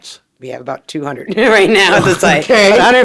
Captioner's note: chuckles